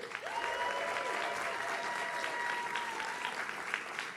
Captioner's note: audience cheers